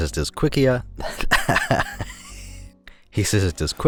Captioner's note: laughs from atop the fourth wall